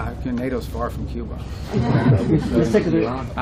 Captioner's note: laughter